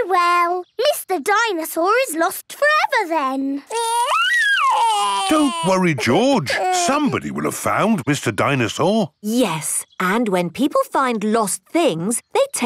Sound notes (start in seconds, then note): 3.7 crying